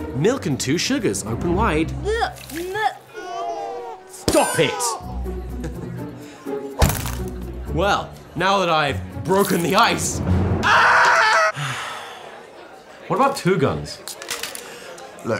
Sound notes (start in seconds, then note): 3.0 children crying; 6.8 cronch; 11.5 sigh